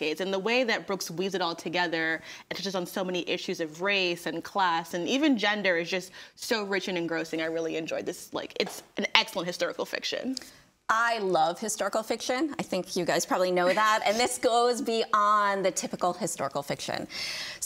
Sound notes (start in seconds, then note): none